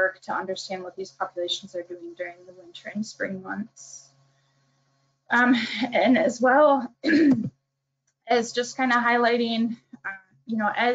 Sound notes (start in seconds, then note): 6.4 throat clearing